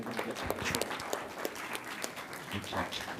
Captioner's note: audience applauding